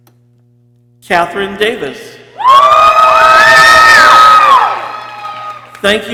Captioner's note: people cheering